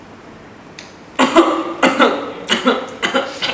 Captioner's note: coughs